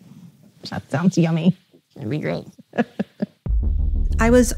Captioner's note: laughs